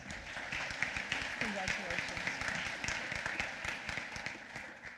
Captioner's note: applause